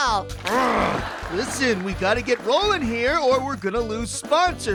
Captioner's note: grunts